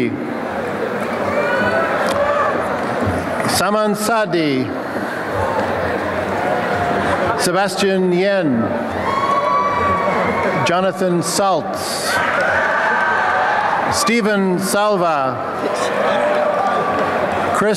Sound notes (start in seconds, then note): 0.2 applause and cheering; 4.8 applause and cheering; 9.0 applause and cheering; 12.3 applause and cheering; 15.5 applause and cheering